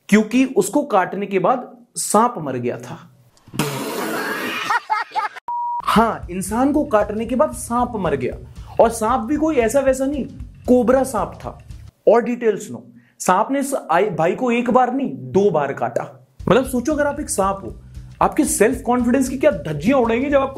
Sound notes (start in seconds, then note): 5.4 beep